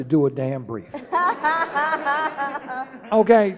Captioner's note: laughing